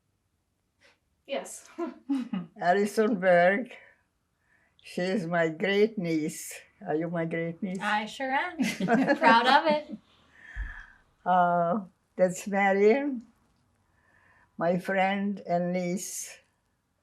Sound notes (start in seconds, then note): 8.6 laughing